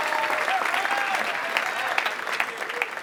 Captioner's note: applause